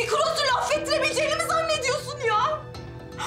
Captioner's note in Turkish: Ağlıyor